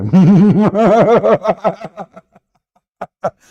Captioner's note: Ketawa